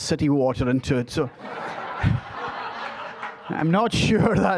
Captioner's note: audience laughing